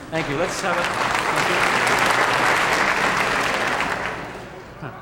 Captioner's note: audience clapping